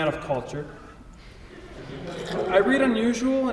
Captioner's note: audience laughs softly